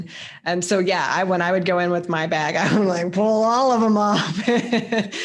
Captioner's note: chuckles